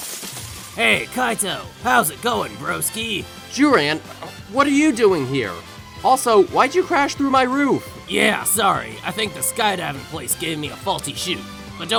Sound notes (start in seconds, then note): 4.2 stutters